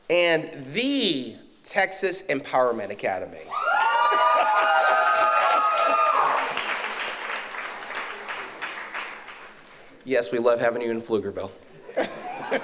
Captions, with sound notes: And the Texas Empowerment Academy. (audience cheers) Yes, we love having you in Pflugerville (laughs).